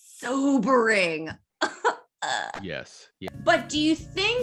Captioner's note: whimpering